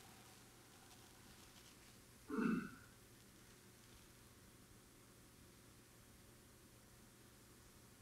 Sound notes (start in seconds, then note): 2.3 audience member clearing their throat